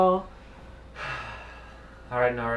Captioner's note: sighs